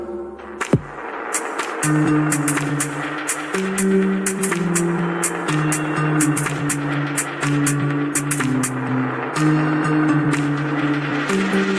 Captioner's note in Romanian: Aplauze